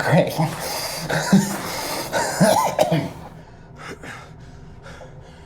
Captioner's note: Miles chuckles and coughs